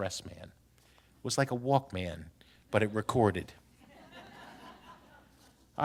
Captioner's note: laughter